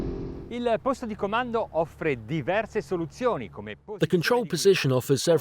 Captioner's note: speaking foreign language